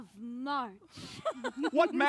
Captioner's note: laughs